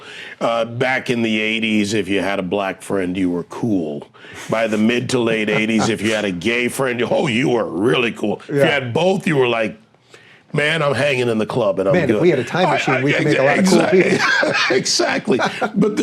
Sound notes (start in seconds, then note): 5.5 chuckling; 15.0 laughing